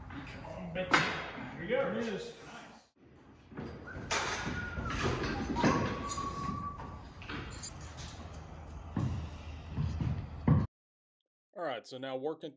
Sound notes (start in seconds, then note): 3.6 whistling